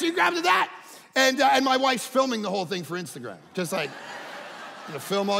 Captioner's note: audience laughing